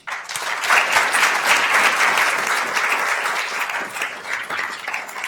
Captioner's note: attendees applauding